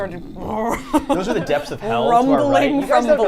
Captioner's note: both growl